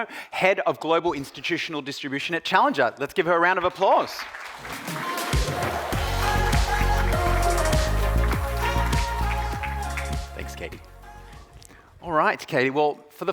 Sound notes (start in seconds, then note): 3.6 audience applauding; 4.6 upbeat music